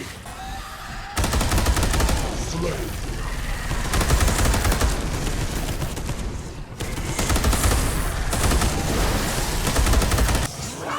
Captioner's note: some gunfire and enemy yelps; insidious Skaven whispering